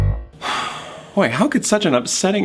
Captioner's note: whimsical music; exhales loudly